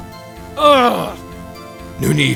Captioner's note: frustrated growl